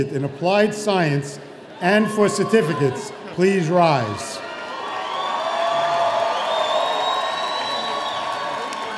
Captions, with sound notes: in Applied Science and for certificates please rise? (audience cheering)